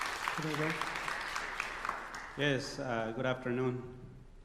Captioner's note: applause